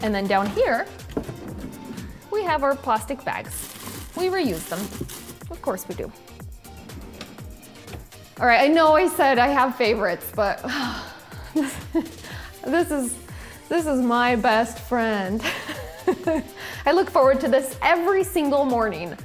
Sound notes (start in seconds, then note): 6.4 upbeat music; 11.1 sighs; 11.6 laughs; 14.8 laughs